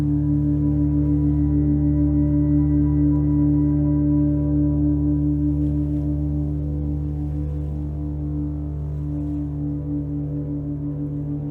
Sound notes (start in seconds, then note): none